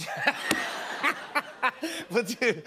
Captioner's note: laughter